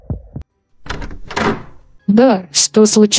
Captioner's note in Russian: Звук открывающейся и закрывающейся двери